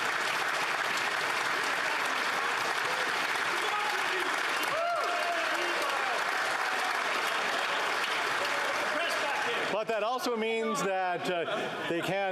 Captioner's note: applause